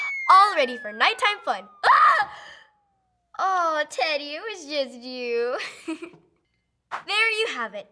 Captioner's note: screaming